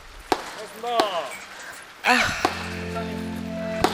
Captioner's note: wailing